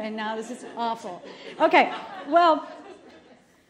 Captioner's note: laughter